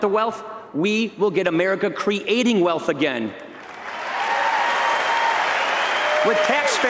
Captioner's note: applause